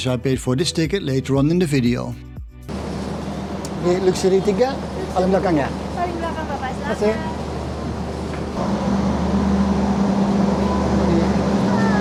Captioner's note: foreign language